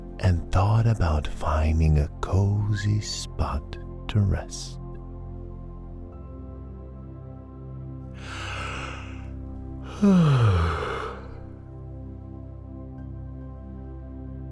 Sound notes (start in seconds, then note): 9.8 yawn